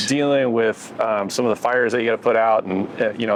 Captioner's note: none